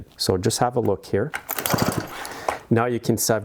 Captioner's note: chainsaw whirring